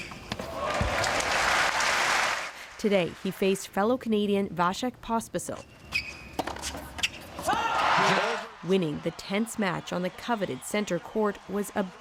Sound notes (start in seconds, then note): 2.6 applause